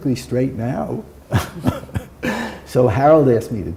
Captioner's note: chuckle